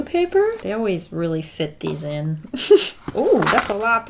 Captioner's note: giggles